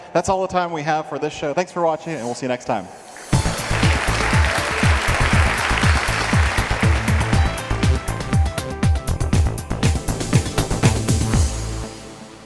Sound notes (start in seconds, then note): 3.2 people applauding; 3.3 upbeat fast-paced music